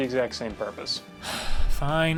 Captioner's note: sigh